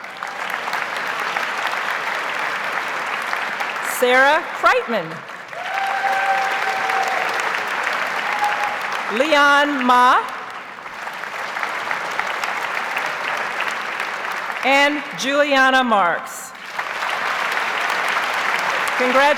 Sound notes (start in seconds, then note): 0.1 audience applauds; 5.3 audience cheers and applauds; 10.8 audience applauds; 16.5 audience applauds